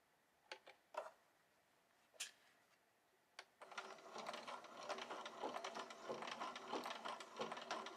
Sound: machine whirrs

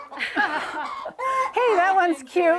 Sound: laughing

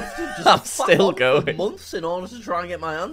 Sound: laughs

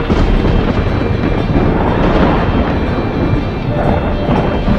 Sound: thunder rumbling throughout

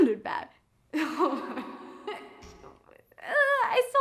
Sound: chuckles

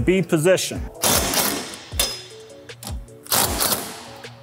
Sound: driver whirring

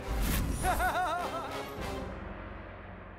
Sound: laughs

